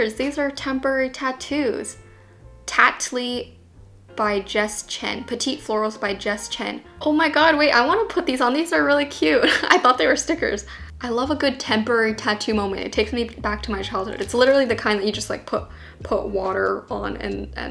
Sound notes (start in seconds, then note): 9.4 laughs